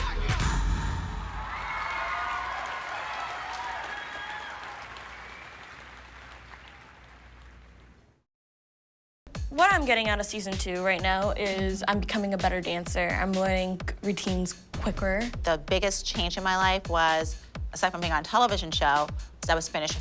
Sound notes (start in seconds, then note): 0.2 song ends; 1.1 audience applauds, whoops